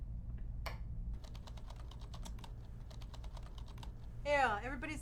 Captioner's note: keyboard clicking